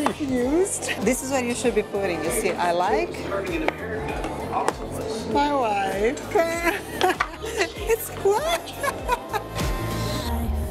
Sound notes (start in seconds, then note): 6.5 laughs